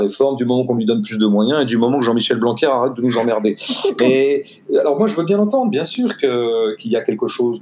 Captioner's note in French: rires